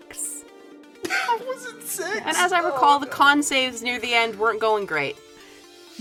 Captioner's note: laughs